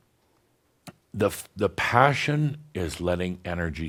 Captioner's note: none